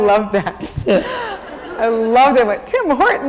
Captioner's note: laughter